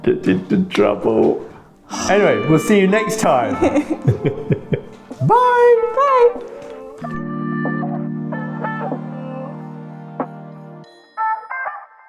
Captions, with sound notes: I'm getting into trouble. Anyway, we'll see you next time. (laughing) Bye. Bye. (upbeat music)